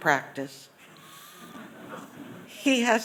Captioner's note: laughter